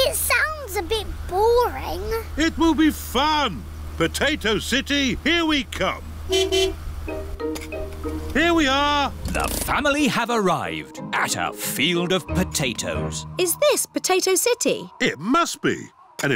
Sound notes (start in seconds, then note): 6.2 honks horn